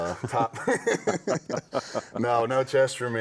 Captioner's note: both chuckling